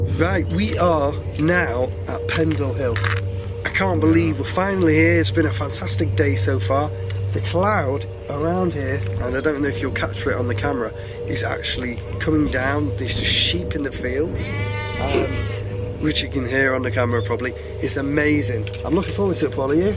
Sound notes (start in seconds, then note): 14.4 sheep calling